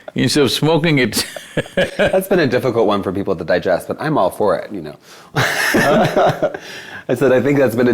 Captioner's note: laughs; laughs